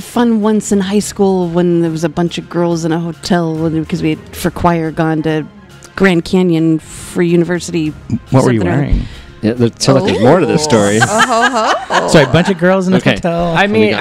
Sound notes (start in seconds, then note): 10.0 laughs